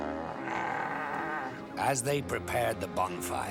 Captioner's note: growls